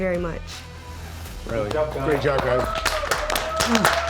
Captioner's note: clapping